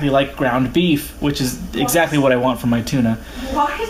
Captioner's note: sarcastically